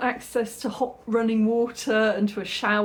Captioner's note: none